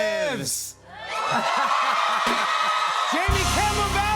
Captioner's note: cheers and applause